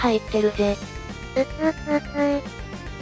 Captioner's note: cry